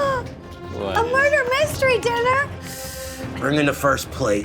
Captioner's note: gasps